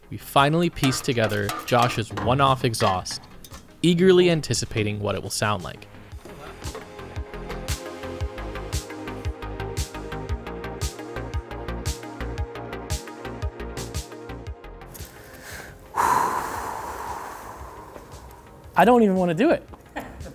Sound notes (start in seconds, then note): 6.3 upbeat music; 15.9 exhales loudly